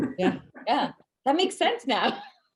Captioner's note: laughs